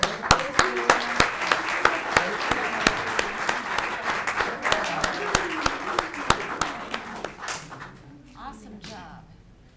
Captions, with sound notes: - Great job. (audience clapping) - Awesome job.